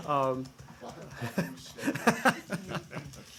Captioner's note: laughter